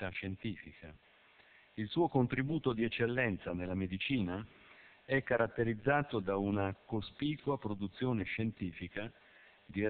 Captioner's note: Italian